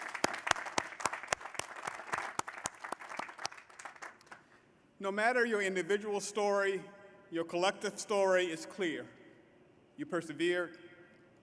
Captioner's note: applause